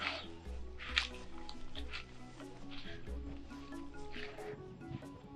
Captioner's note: leaves rustling